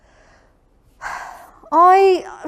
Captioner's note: sigh